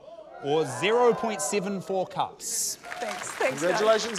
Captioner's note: whooping, applause